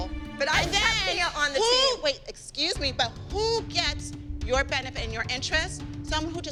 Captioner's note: none